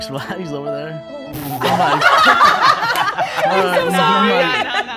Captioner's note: sad music; group laughing